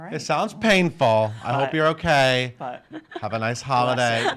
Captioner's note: chuckling